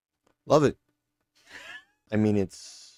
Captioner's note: Omega weezes